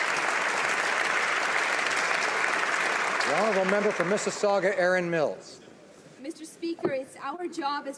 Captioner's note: applause